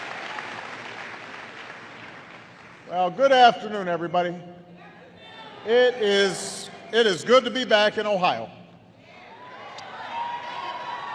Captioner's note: applause; applause